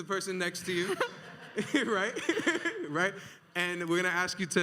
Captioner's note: audience laughs